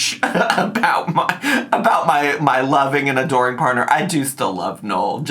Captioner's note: laughs